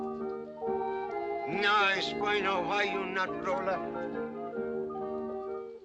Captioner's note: in spanish